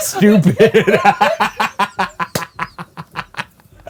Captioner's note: laughs